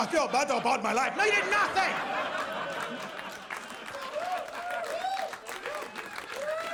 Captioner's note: audience cheers